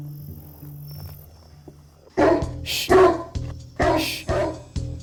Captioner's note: deep barking